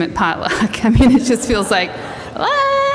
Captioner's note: laughter